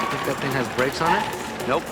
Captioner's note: tires squealing, horns honking